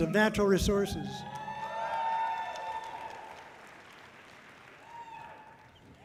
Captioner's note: audience cheering loudly